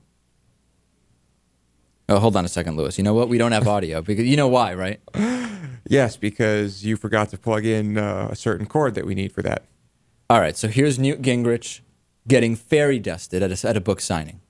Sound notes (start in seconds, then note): 5.1 laughs